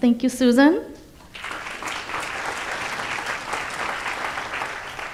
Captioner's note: audience applauds